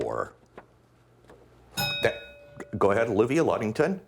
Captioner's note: bell rings